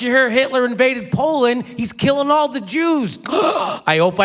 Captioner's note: gasps